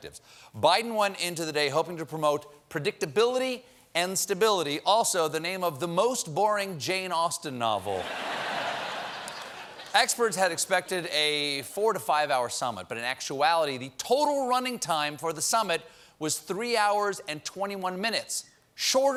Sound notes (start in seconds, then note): 8.0 laughter